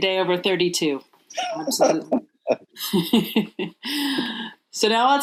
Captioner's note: laughing